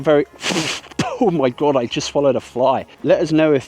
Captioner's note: chokes